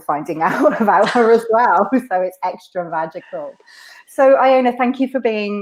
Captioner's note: laughs